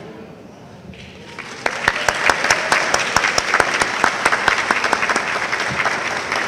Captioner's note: audience applauding